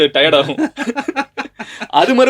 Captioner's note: laughter